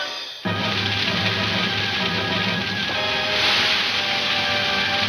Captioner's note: fire crackling aggressively